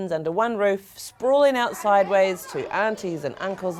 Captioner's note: bustling conversation